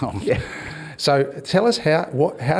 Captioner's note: laughs